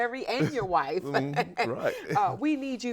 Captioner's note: laughs